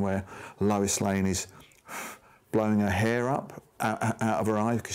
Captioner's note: blows air